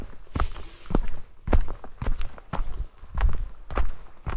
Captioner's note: A sound from the bushes